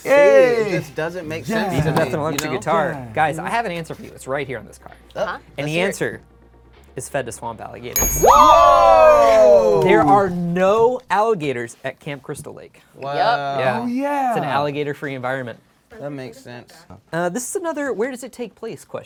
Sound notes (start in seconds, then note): 7.9 bell dings; 8.0 cheering